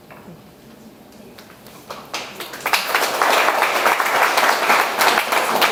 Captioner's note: audience applauds